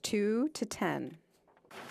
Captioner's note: speaking French